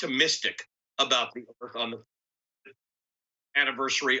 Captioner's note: audio cuts out